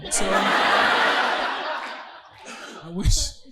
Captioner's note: audience laughing